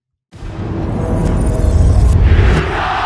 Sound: booming sound effect

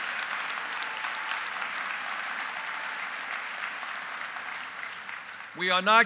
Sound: applause

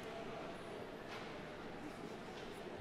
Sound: none

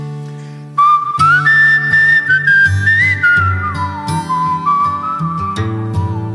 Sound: melancholy guitar music; whistling

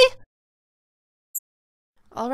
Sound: TV becomes muted

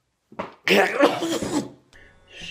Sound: chokes

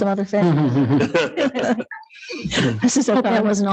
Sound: laughing

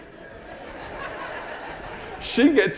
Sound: audience laughing

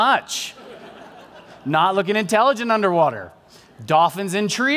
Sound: laughter

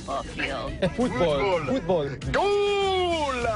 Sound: laughter

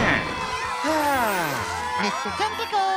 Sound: sighs

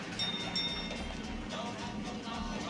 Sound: bell ringing

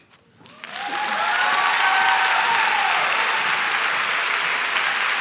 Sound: audience claps and shouts

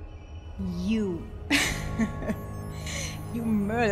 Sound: laughs

